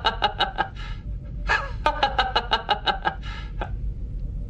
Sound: forced laugh

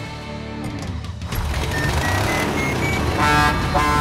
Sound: revving; honking

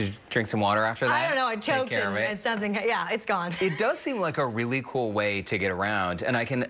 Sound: laughter

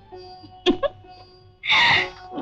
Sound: chuckles

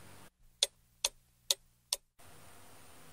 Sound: tick tock tick tock

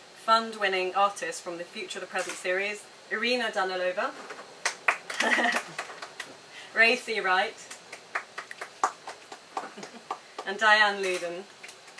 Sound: applause

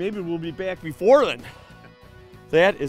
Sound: laughs

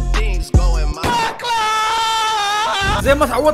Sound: screaming

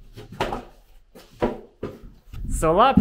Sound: board thumping

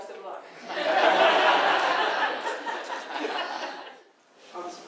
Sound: audience laughs

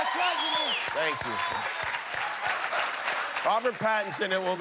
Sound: cheers and applause

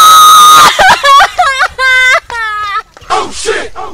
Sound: screams and cries

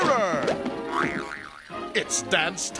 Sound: background spring recoiling

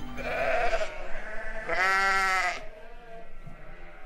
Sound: sheep bleating

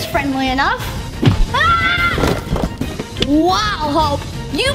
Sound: screams

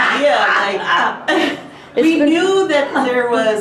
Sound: laughing

